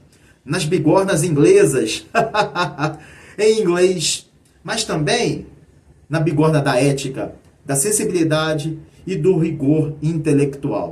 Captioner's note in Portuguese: risadas